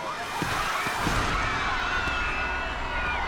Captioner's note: screams